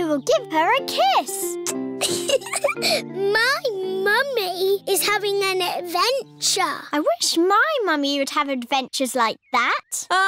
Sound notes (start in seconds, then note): 1.6 air kisses; 2.0 giggles